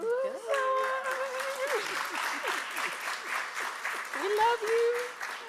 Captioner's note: applause